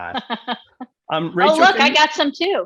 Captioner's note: laughing